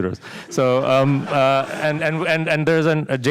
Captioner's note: laughter